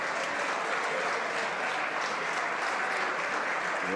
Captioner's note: some Applause